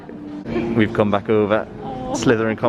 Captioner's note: laughing